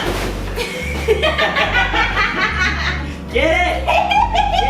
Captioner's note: both laughing